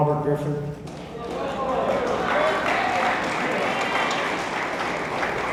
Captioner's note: attendees applauding